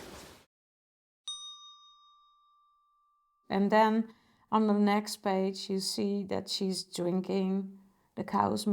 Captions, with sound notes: [bell rings] And then on the next page you see that she's drinking the cow's